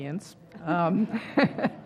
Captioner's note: laugh